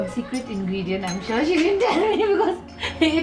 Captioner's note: laughs